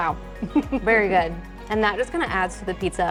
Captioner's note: chuckling